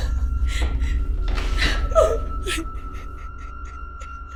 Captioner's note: crying